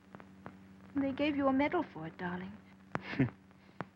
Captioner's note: chuckles